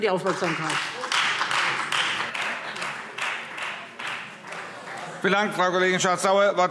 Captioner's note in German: Beifall Freie Demokraten